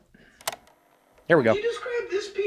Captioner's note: graphic clicks